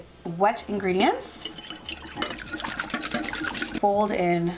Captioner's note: whisking